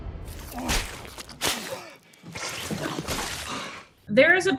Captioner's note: boat crashing; spitting noises